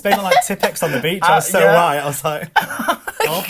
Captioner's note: laughs